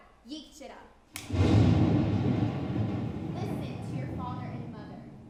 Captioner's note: speaking indigenous language; thunder rumbling